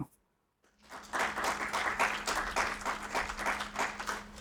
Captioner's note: audience applauds